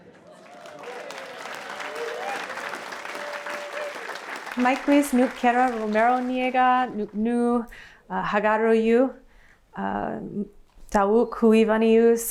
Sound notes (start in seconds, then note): 1.3 speaking her language